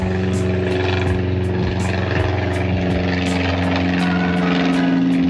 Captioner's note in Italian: Elicottero